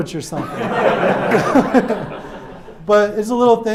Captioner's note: audience laughs